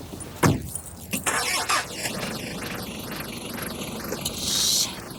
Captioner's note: car engine revving